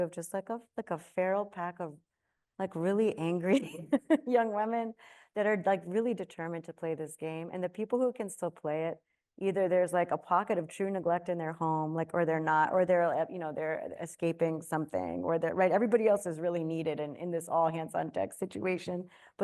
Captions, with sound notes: of just like a, like a feral pack of, like, really angry (laughs) young women that are like really determined to play this game. And the people who can still play it, either there's like a pocket of true neglect in their home, or they're, you know, they're escaping something, right? Everybody else is really needed in this all hands on deck situation.